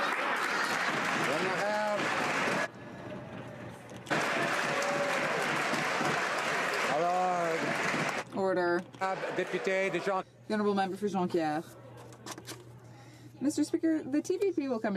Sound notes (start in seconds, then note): 4.0 some Applause